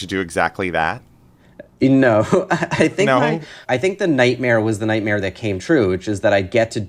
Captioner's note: laughter